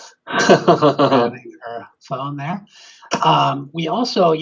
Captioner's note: laughing; faintly speaking